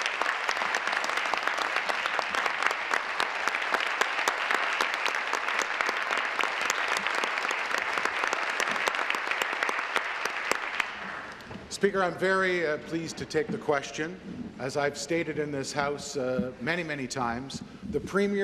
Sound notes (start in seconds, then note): 3.9 applause